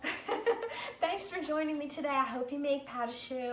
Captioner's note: laughs